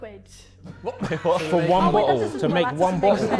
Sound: Sidemen laughing

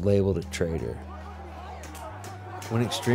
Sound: crowds shouting

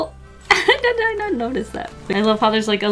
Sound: laughs

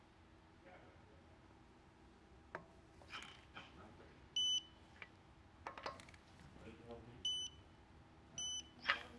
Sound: beeping

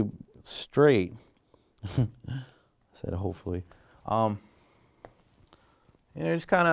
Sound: laughing

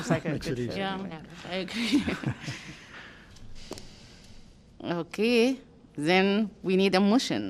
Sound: laughter

